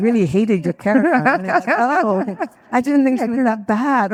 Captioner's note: laughs